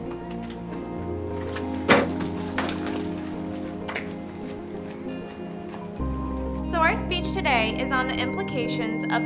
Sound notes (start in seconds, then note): 1.4 door slams shut; 3.4 dramatic electronic music